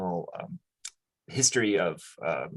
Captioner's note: lips smack